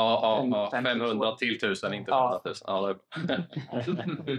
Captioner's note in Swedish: fniss